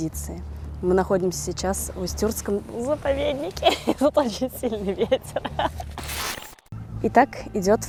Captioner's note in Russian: смех